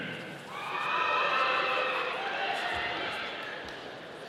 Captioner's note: audience cheering